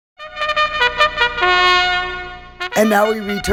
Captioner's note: horn blaring